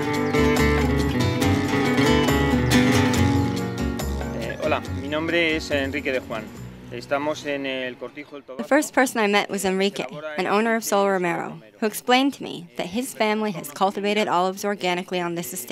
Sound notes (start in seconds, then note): 4.6 speaking in Spanish